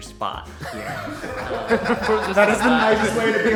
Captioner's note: everyone laughing